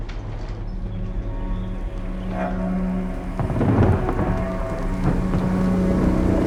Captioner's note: eerie music; thunder rumbling